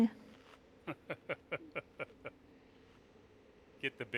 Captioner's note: laughter